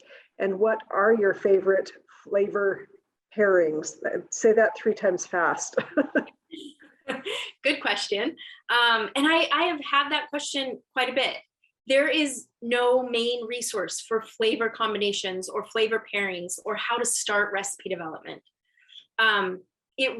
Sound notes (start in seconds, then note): 5.7 laughter